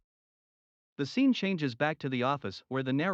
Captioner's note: voiceover